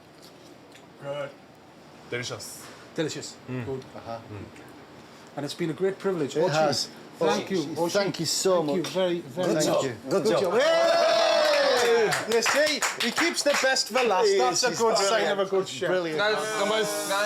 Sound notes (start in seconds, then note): 0.3 speaks Japanese; 10.4 cheering